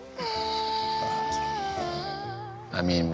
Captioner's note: whispering